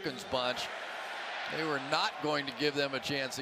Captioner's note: crowd chanting